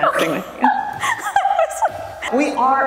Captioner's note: laughing